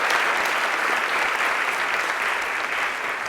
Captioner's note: applause